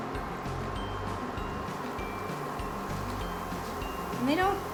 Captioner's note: sizzling sounds